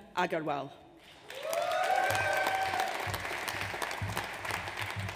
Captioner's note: audience cheers